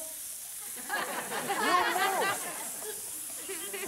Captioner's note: audience chuckles